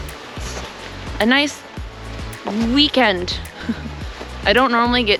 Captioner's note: laughter